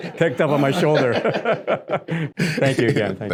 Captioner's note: all laughing